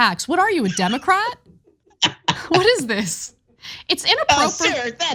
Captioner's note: laugh